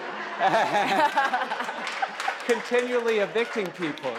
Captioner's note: laughs; audience claps